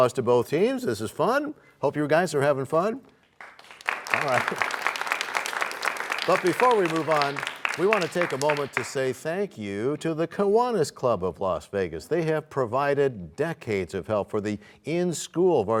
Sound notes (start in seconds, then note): 3.3 applause